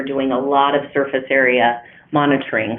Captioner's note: none